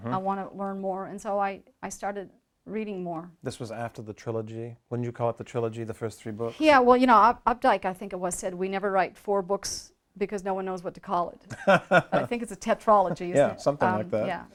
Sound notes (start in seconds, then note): 11.5 chuckles